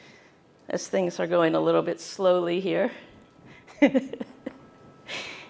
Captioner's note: laughter